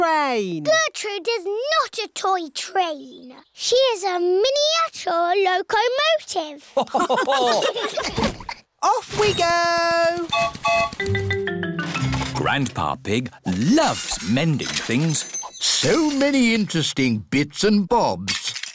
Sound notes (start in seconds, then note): 6.7 laughter; 10.3 whistle blows